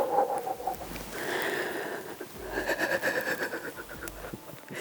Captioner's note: exhaling and laughing